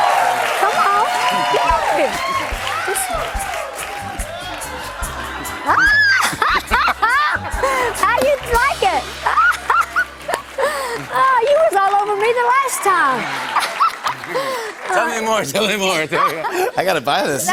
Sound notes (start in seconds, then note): 4.3 laughs